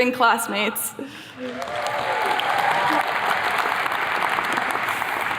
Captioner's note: attendees clapping